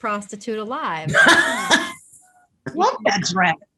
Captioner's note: all laugh